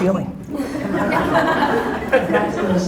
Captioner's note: audience laughter